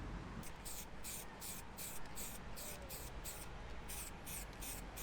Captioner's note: paint can hissing